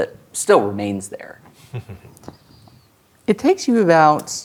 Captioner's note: chuckles